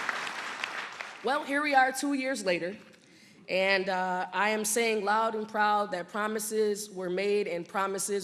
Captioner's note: applause